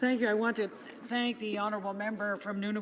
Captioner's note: speaking native language